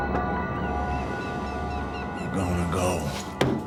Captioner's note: dramatic music; birds squawking